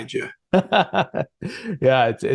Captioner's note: giggling